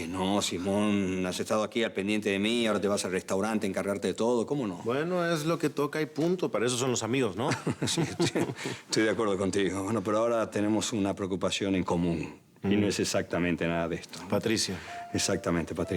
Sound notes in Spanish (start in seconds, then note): 10.1 Risas